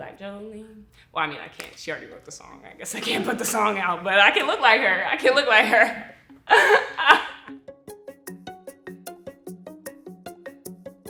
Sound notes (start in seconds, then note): 6.4 laughs; 7.7 gentle upbeat music